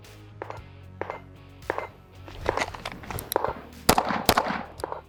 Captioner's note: gun popping in the distance; gun popping